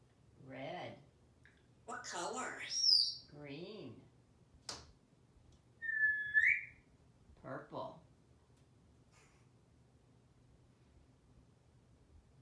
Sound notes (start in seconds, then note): 5.8 whistling